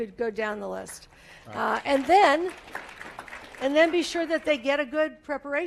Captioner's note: applause